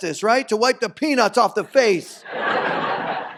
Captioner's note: audience laughs